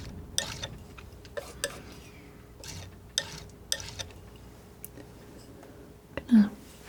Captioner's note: scraping